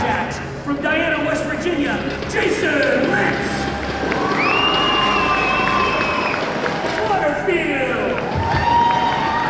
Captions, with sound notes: From Diana, West Virginia, Jason Lentz. (crowd cheers) Waterfield.